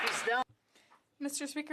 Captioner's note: applause